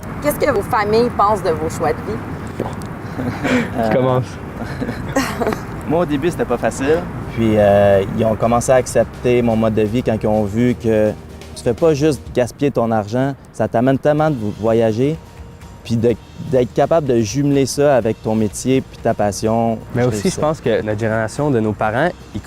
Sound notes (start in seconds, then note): 3.0 laughs